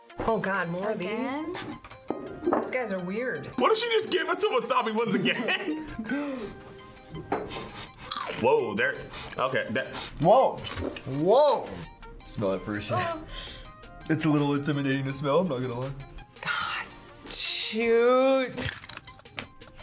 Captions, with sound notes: - Oh God, more of these? - Again? - These guys are weird. - What if she just gave us the wasabi ones again? (laughs) - Woah, they're... - Woah, woah! - Smell it for a second. - Ugh. - It's a little intimidating to smell, I'm not gonna lie. - God, shoot!